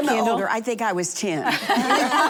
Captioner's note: laughing